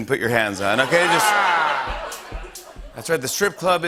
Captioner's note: laughter